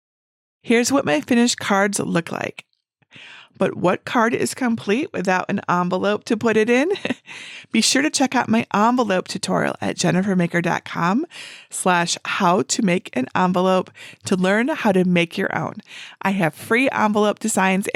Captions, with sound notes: Here's what my finished cards look like, but what card is complete without an envelope to put it in? (chuckling) Be sure to check out my envelope tutorial at jennifermaker.com/how-to-make-an-envelope to learn how to make your own. I have free envelope designs